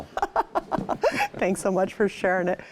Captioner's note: laughs